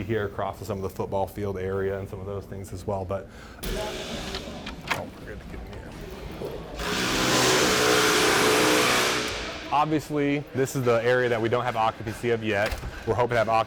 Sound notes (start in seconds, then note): 5.3 construction sounds; 5.3 door opening